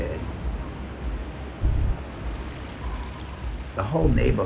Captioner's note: wind blowing fiercely